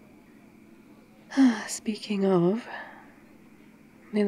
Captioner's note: sighs